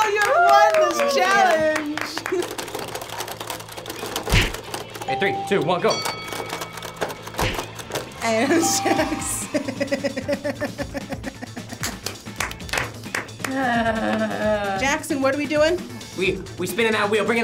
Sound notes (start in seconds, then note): 2.4 robots clanking; 4.3 fist smacks; 5.1 bell chimes; 5.1 bell dings; 6.8 robots clanking; 7.7 fist smacks; 9.5 laughing; 11.8 clapping; 13.5 sighs